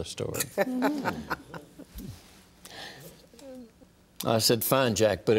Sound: laughs

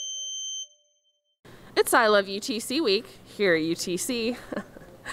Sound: chuckle

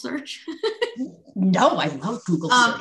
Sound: laughs

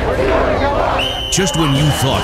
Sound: whistle

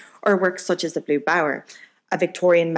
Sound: none

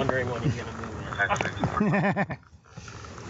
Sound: laughs

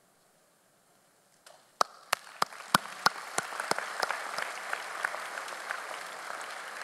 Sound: claps; audience applauds

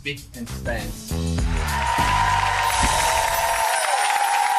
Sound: cheering

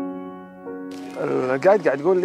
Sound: speaking foreign language

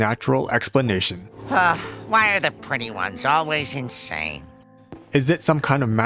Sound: sigh

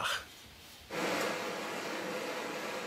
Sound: hissing

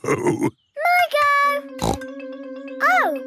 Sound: snorts

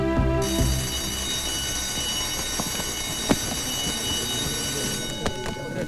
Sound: school bell rings

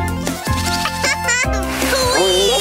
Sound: giggling

